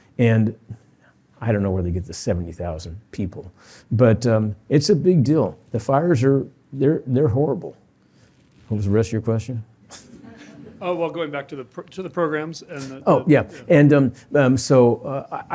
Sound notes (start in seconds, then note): 9.9 chuckles